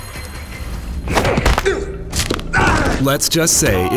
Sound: crunches

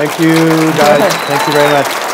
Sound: applause

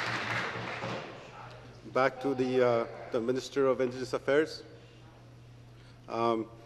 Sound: applause

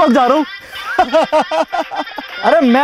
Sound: laughing

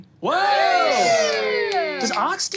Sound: players cheering

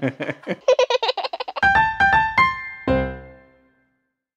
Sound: laughs; baby giggles

